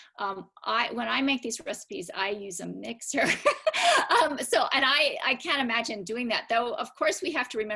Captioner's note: laughter